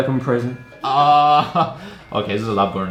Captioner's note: laughs